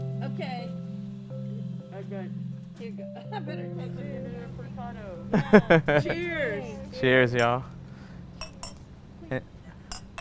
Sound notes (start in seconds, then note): 2.6 laughs